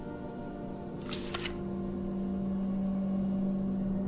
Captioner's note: page flicks